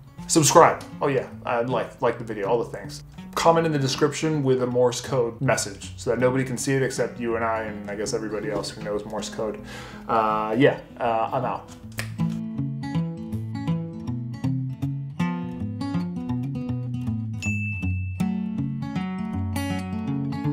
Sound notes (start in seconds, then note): 11.6 snapping; 12.4 soft guitar music; 17.4 dinging